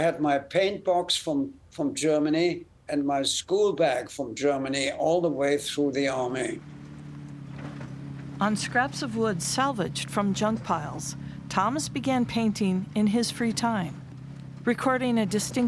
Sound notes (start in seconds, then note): 7.5 tires on gravel sounds